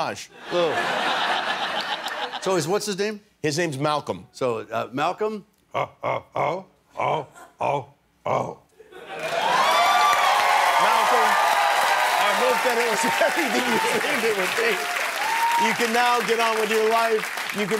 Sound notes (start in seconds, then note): 6.6 grunting; 8.6 cheers and applause